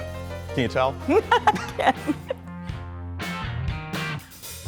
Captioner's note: laughter